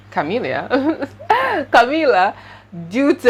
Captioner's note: laughs